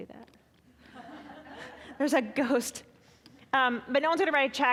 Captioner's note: audience laughing